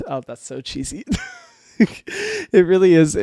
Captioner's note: laughs